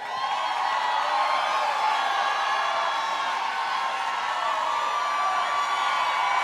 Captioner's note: audience cheering; audience applauding